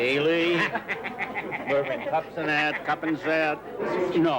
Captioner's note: laughs